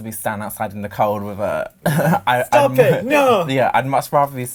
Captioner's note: laughs